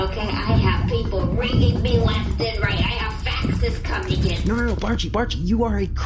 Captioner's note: skittering frantically